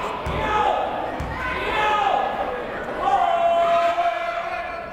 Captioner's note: yelling